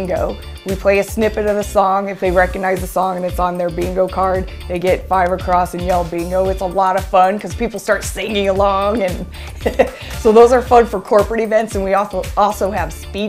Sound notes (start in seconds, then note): 8.8 chuckles